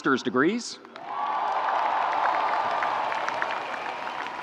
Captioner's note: audience cheering